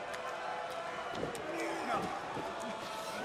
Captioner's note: crowd chatter